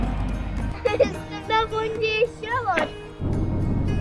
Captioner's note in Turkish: gülme